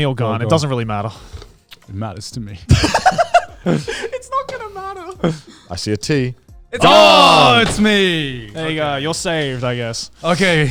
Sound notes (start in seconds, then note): 2.7 laughing